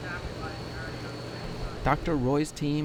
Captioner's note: machine whirring